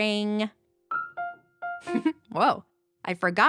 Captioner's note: giggles